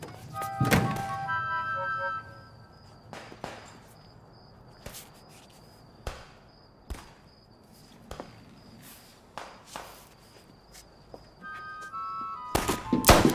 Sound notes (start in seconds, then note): 0.4 dramatic music; 3.1 guns firing